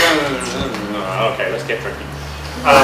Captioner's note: mumbling